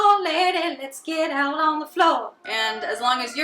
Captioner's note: sirens wailing